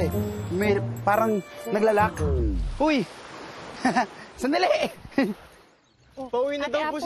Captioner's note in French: chuckles